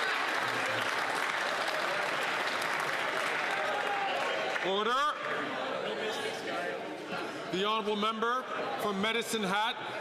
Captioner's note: some Applause